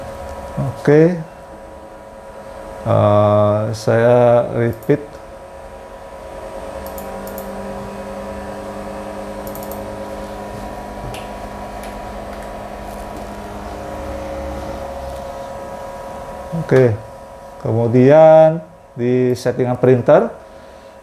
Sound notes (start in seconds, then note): 4.7 clicking sound; 9.4 keyboard sound